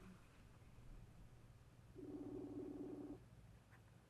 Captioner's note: phone ringing